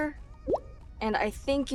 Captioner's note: text bubble pops